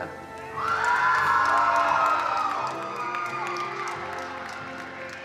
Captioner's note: attendees cheering and applauding